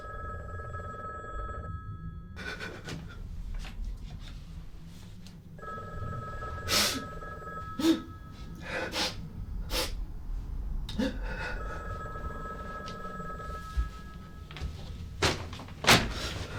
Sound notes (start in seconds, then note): 8.5 sobs; 9.1 phone rings louder